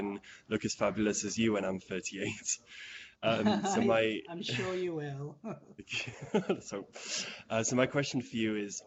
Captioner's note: laughing